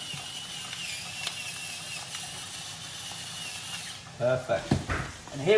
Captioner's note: pepper grinder spinning